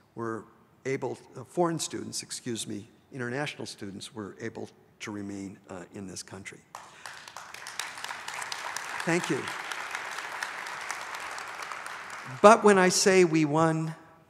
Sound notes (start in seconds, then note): 6.7 audience applauds